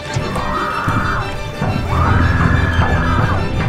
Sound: screams

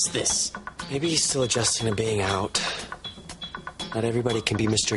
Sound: sighs

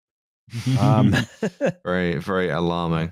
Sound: laughter

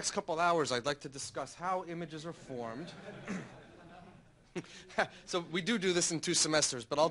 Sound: laughter

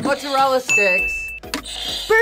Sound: bell rings; buzzer rings

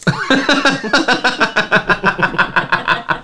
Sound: embarrassed Laughter

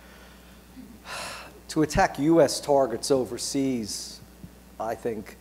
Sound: sighs

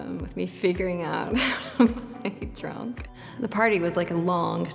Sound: laughs

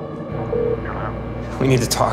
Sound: phone dialing sound; voice On Phone

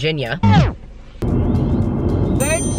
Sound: record scratches

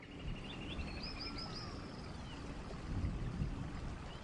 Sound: birds tweeting

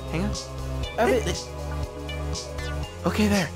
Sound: stammering

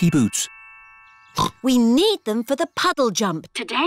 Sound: snorts

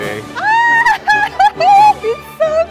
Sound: laughs

